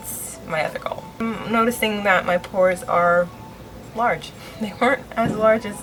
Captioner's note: laughs